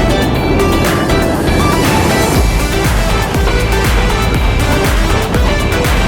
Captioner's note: bright upbeat music; ride wheels skidding